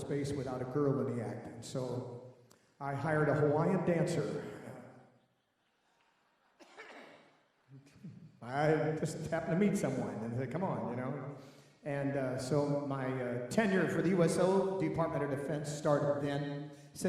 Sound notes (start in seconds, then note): 5.8 laughing